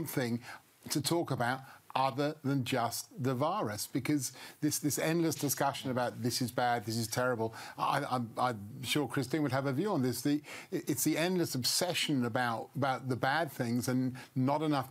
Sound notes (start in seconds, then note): none